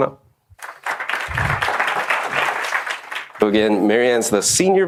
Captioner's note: audience applauding